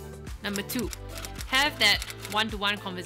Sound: typewriter clicks

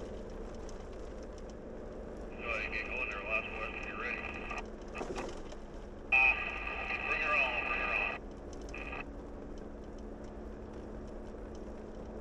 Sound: static-filled radio chatter

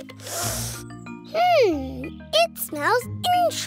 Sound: sniffs

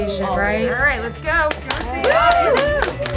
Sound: applause

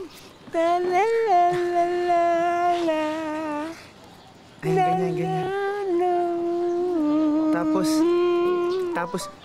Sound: hums a melody

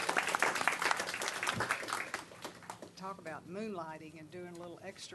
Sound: applause

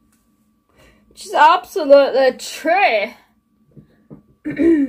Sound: weird accent arrives

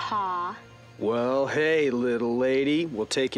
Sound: imitating John Wayne

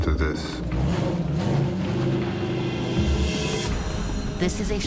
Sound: engine revving

